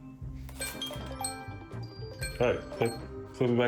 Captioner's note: phone alarm rings